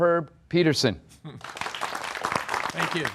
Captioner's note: applause